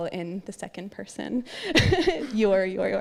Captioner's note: laughter